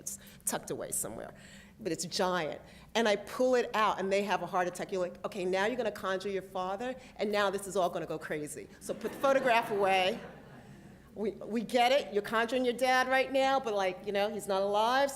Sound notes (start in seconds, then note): 8.9 laughter